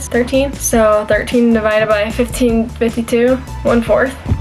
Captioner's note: bell ring